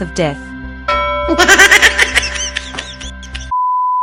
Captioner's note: high-pitched evil laughter